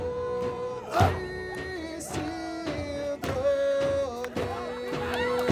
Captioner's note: chanting